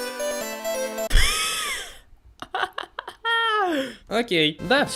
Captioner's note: burst of laugh